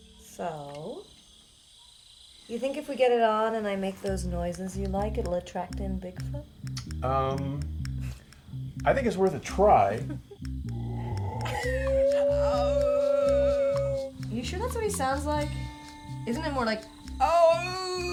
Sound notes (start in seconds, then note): 9.2 chuckles; 10.7 howls; 11.3 smooth upbeat music